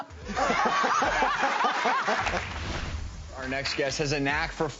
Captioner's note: laughs